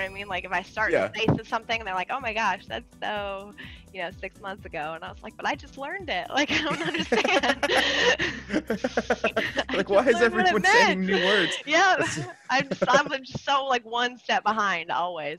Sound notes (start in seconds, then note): 6.3 laugh